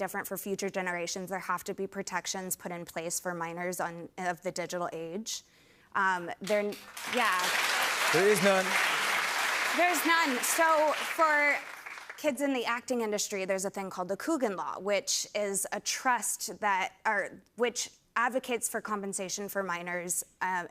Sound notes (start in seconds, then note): 6.9 cheers and applause